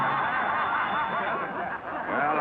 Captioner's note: class laughing